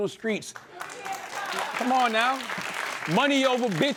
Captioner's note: applause